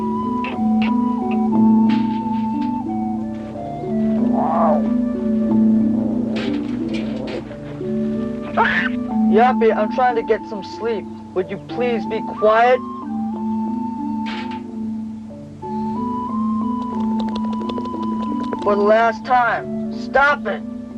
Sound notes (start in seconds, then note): 8.5 baboon shouts; 16.8 baboon chattering